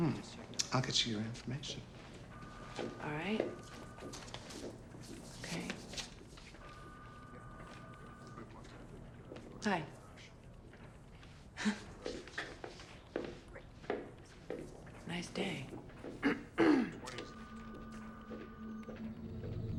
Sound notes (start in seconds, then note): 16.2 clears throat; 19.5 soft suspenseful music